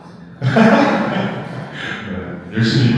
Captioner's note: laughter